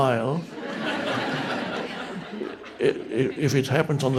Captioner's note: audience members laughing